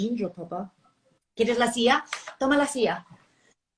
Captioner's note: speaking spanish